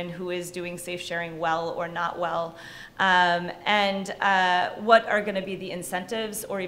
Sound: none

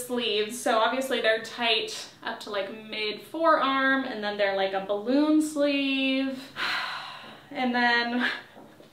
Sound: sigh

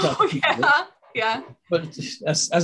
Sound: laughing

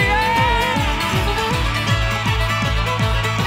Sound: cheering

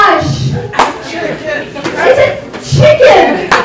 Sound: voice from crowd

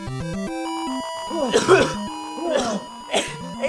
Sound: coughs

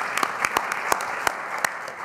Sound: applause

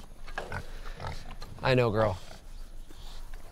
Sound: pig snorting

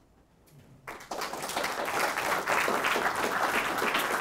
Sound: audience clapping

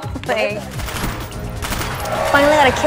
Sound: achievement sound; machine gun fire

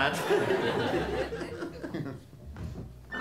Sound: laughter

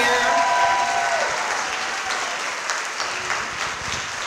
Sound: audience clapping

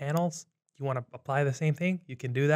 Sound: keyboard clanks

